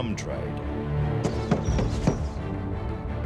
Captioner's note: man knocking on door